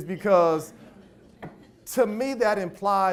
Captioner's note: audience laughs